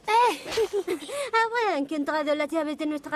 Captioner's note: giggles